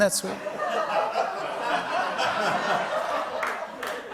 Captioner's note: laughter; applause